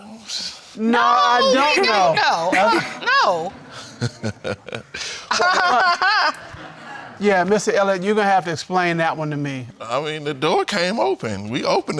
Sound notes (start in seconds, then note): 3.6 laughs; 4.8 laughs mockingly